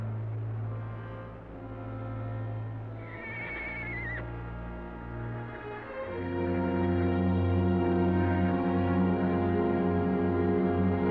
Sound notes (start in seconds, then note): 3.0 horse whinnying; 7.9 dramatic music